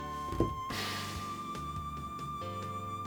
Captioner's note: sigh